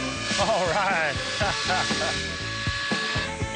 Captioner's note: laughs